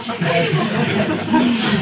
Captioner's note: laughter